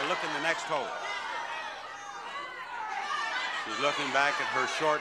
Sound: audience yelling

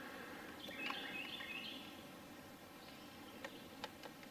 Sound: birds chirping

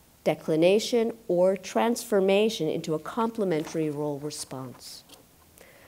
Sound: pages rustling

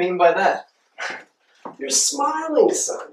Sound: dad lets out a happy sigh

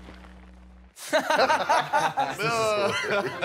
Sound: guys laugh

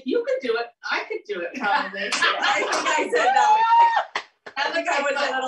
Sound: laughter

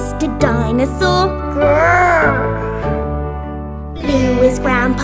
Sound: roars

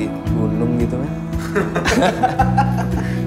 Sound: laughter

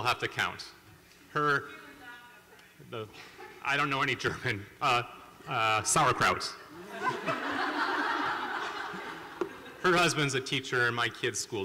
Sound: people talking; laughter

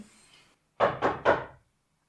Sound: knocking

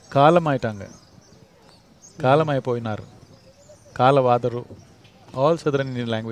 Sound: speaks in Tamil – not transcribed

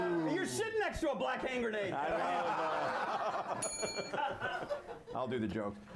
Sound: bell rings

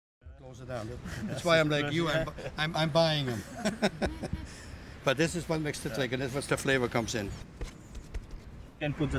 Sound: chatter

